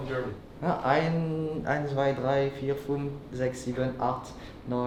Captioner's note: counting in German